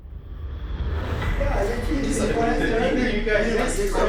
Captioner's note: inmates chattering